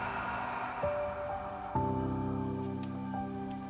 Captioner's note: exhales